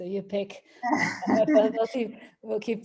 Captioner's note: laughs